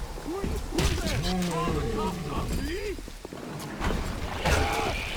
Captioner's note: thunder